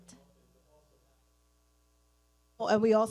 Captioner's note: speaking away from mic